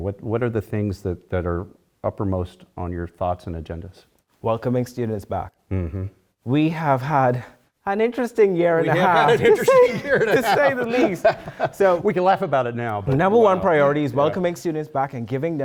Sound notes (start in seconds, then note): 8.8 laugh